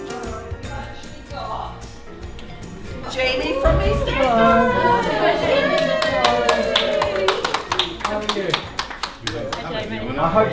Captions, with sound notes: We've actually got Jamie from EastEnders! [applaud] How are you?